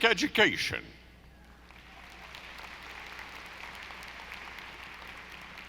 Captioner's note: audience applauding